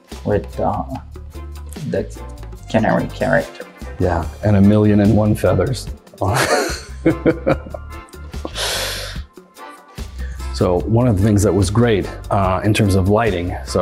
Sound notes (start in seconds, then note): 6.3 laughs